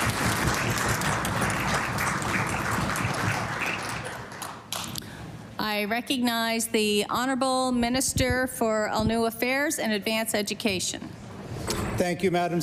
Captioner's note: applause